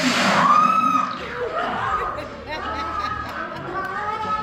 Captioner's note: screaming